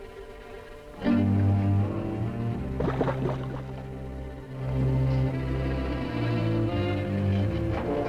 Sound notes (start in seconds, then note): 1.8 liquid gurgling